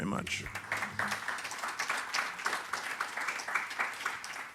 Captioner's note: audience applauding